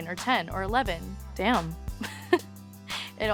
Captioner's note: laughs